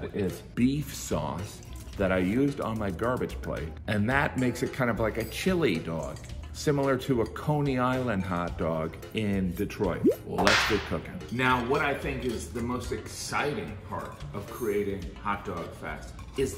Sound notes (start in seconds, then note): 10.4 whip cracking